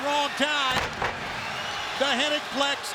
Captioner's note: bodies thudding